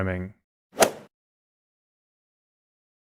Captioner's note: golf ball hit sound